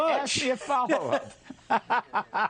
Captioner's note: laughter